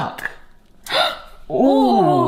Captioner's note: both gasp